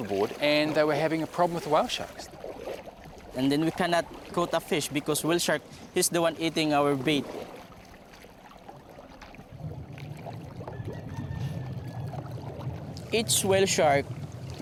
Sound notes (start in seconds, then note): 10.8 hen cackles